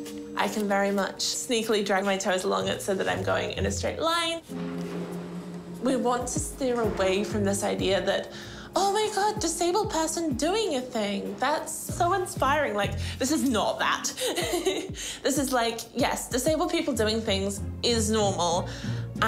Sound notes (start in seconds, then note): 14.2 chuckles